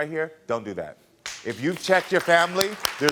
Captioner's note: audience applauding